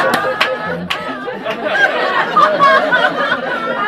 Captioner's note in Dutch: gelach